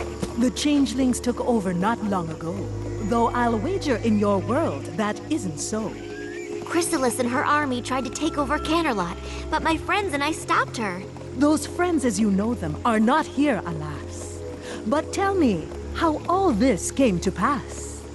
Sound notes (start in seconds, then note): none